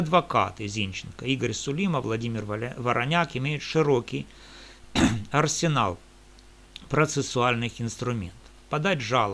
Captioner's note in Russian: откашливается